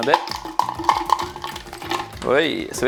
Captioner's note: fruit clatters